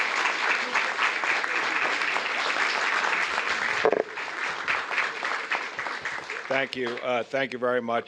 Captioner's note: applause